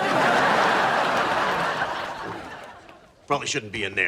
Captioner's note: audience laughs